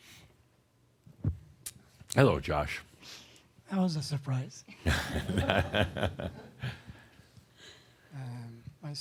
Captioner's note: chuckles